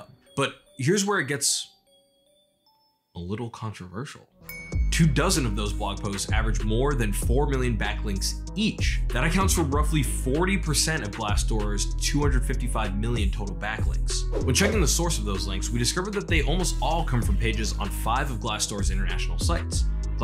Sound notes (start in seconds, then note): 14.3 swipes